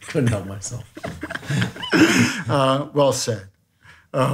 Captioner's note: laughs